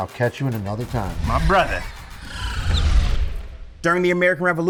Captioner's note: electronic sounds